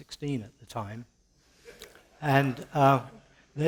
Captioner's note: light laughter